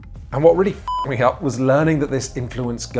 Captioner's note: beep